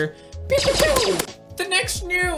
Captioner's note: laser sounds